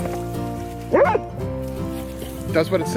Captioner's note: dog barking